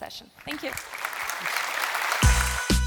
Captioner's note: applause; upbeat music playing